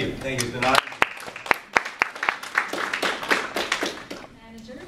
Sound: audience applause

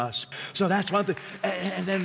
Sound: applause

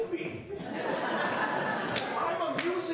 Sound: audience laughing

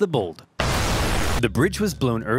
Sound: bridge explodes

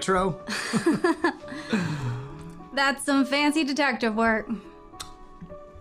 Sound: laughs

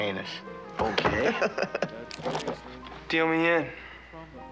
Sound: laughs

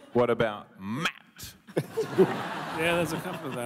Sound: laughter

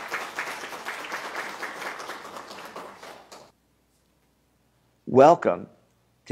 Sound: applause

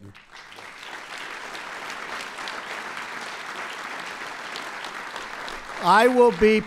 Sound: applause

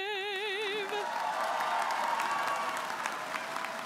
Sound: applause

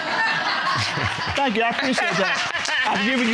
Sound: audience laughs; chuckles

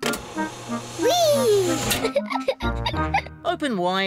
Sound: giggles

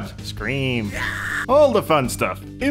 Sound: screaming

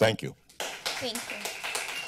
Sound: people applauding

